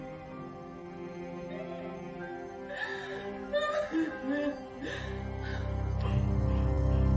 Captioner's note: sobbing